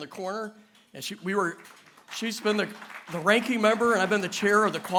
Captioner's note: applause